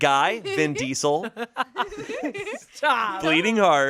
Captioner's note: everyone laughs